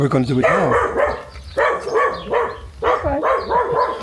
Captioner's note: dogs barking